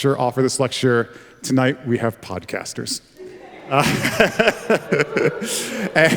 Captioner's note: laughs